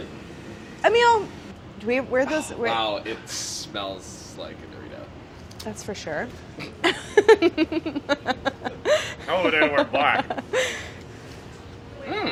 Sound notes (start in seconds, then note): 6.8 laughs